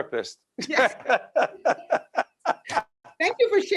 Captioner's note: laughing